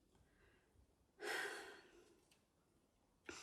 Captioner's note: sighs